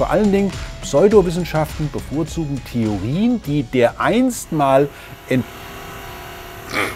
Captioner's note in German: Lautes Brummen